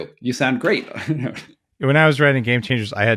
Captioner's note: chuckling